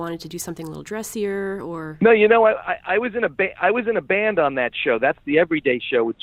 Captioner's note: laughs